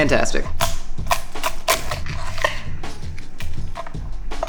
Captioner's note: chopping food